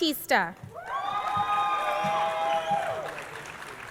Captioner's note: crowd cheering